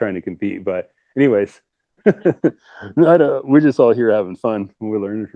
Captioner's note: laughter